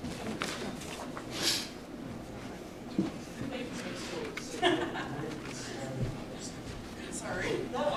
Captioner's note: snorts